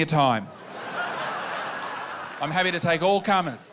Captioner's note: laughter